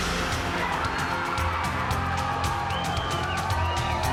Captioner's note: cheers and applause